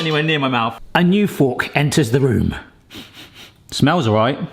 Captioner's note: sniffs